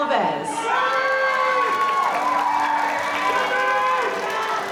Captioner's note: audience cheering